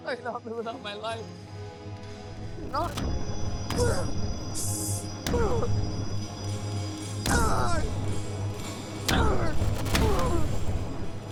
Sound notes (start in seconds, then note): 5.4 groaning; 8.3 dramatic music